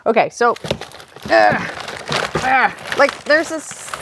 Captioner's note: grunts